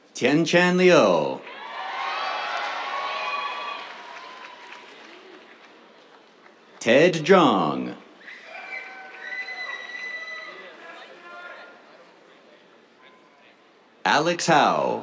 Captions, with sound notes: Tianchen Liu. [CHEERS, APPLAUSE] Ted Zhang. [CHEERS, WHISTLES] Alex Hao.